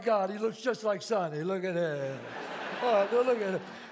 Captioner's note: audience laughs